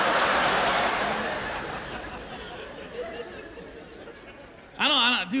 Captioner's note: laughter